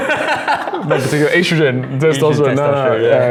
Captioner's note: laughs